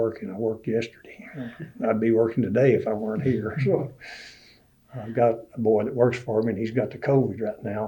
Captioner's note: laughs